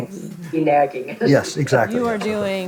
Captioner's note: laughing